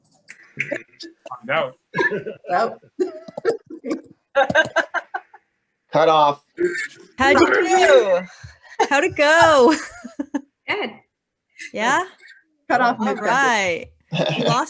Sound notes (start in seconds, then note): 2.0 laughing